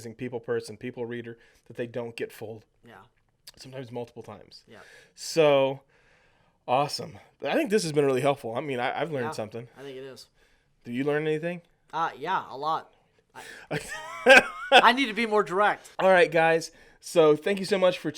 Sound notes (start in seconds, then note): 13.4 laughs